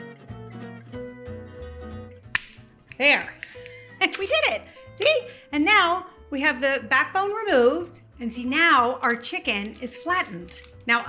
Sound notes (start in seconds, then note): 0.1 warm music; 2.3 shears snapping